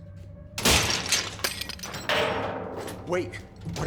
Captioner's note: metal clatters